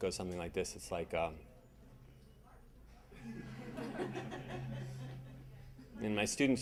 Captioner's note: audience laughing